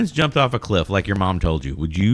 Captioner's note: uh